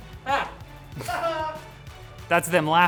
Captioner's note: laughs